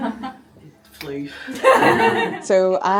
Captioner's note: snaps fingers